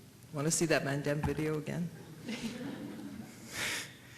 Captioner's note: laughter